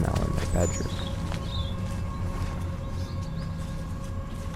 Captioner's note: birds chirping